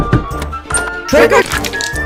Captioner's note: door Knocking; opens Door